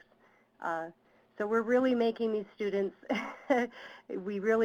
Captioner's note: laughs